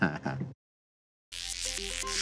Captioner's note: chuckles